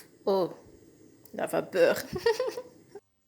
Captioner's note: steam